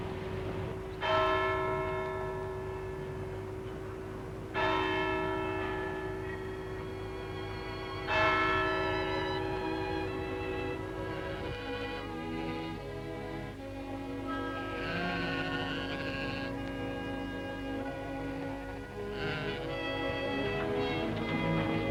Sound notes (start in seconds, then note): 0.8 clock strikes; 4.2 clock strikes; 8.0 clock strikes